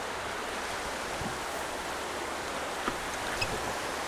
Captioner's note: rushing water